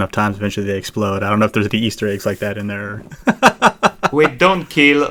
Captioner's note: laughs